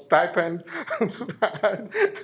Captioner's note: laughs